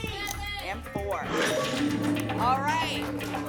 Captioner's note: lock sound